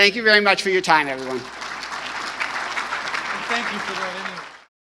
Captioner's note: audience applauding